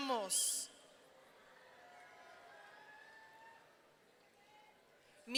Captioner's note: audience cheering